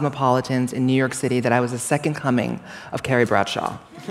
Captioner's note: laughter